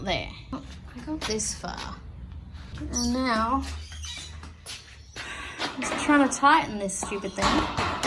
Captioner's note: sighs